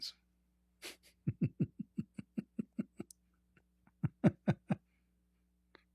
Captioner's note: Ketawa